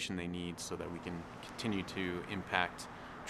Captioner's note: sounds of vehicles driving on road